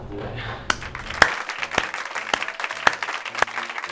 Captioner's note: applause